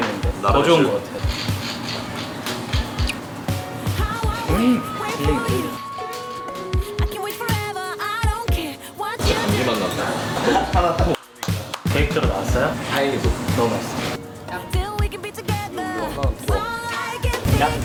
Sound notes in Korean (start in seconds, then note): 11.1 짝짝짝